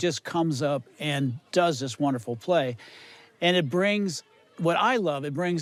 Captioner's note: none